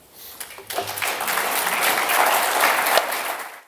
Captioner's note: applause